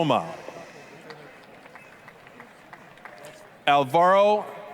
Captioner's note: applause, cheering